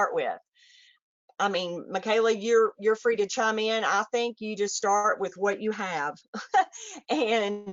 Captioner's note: chuckles